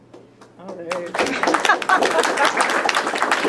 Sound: all clapping

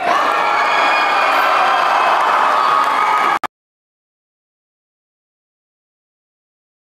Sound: applause

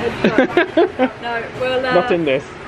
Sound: laughs

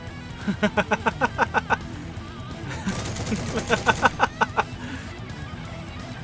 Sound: more laughter; even more laughter

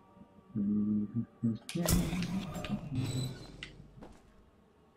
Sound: humming

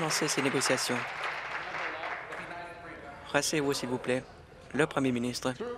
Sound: applause

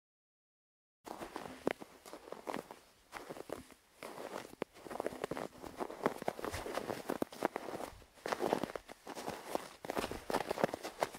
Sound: sound of steps in the snow

